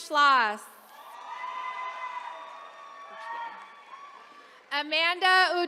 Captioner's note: attendees cheering